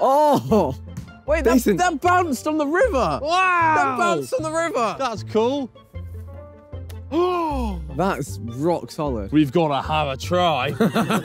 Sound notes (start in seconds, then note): 7.1 gasping